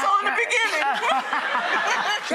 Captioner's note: laughing